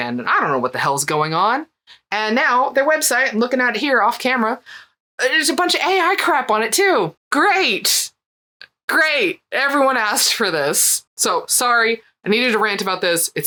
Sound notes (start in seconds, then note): none